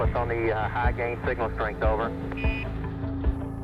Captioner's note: beeping